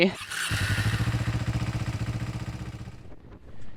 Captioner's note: engine cranks